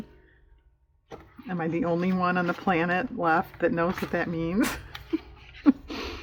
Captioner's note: laughs